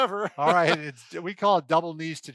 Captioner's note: laughing